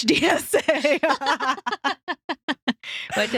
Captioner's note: laughing